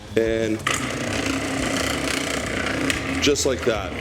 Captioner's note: food processor whirling